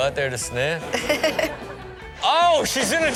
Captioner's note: Chanel giggles